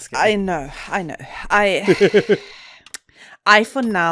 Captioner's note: sighs